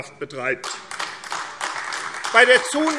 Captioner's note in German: Beifall AfD